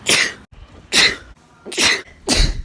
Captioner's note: sneeze; gasp another sneeze